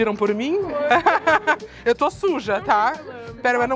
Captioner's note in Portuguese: risos